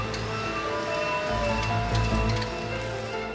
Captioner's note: fork lift whirring; melodic orchestral music